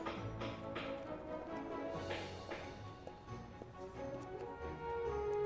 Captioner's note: hammering